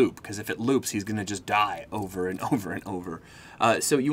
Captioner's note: laughing